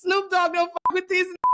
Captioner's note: beep